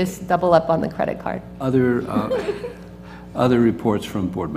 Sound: laugh

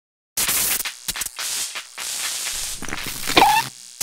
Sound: zap

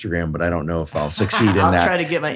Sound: laughs

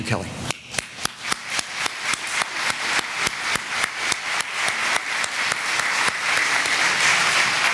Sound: clapping

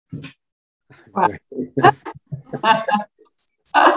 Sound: laughing

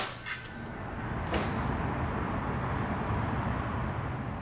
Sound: ambient traffic noise

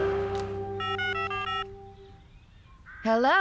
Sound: cell Phone Tones

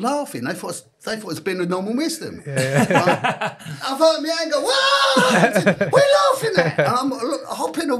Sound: audience cheers

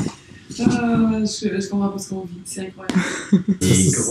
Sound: laughs

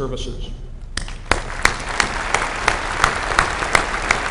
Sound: applause

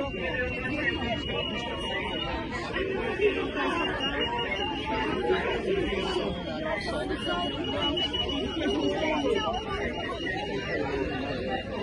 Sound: sounds of a crowd

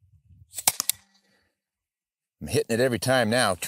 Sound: shot fired

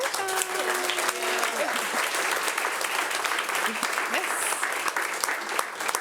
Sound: audience applauding

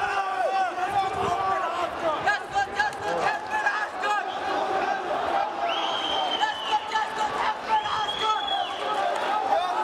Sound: chants

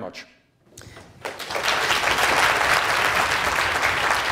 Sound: applause

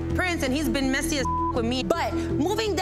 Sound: beep

